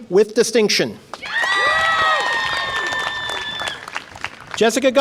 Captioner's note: audience applause and cheer